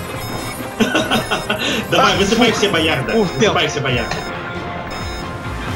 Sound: laughs

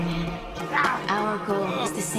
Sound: grunting

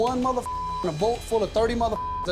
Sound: beep

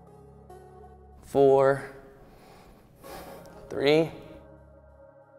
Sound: exhales

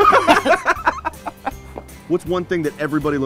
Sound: laughter

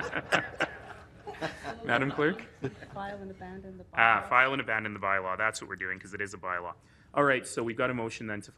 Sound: laughter

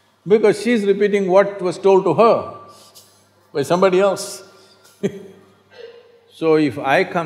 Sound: laughs

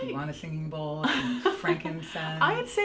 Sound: laughs

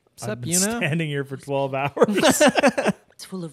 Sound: both laughing

